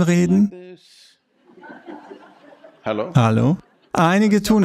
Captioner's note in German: Gelächter